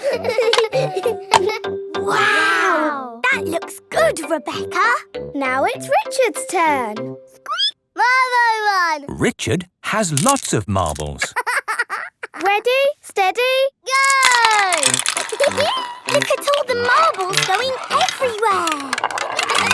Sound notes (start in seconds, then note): 7.5 squeaking; 11.2 laughing; 15.6 laughing